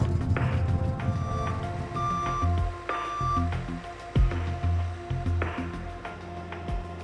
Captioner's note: machine reversing; pulsing music